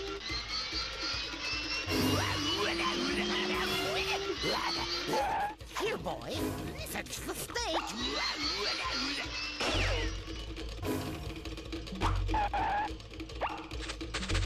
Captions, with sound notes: [growling] HERE, BOY. FETCH THE STEAK. [skidding]